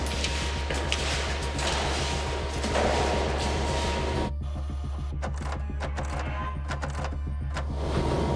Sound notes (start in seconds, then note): 5.3 copier sound